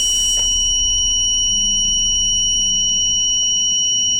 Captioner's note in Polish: dzwonek